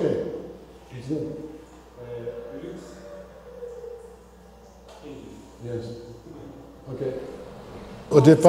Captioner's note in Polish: w oddali rozmowa z technikami